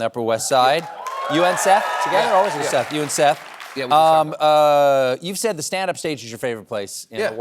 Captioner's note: cheering